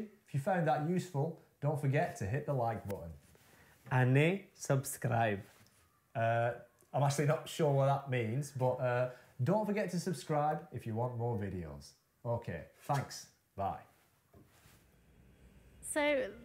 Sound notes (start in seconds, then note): 3.8 speaking Gujarati